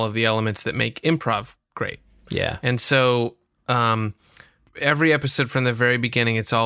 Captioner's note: none